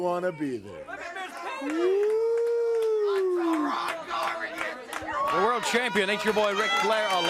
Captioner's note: crowd chatter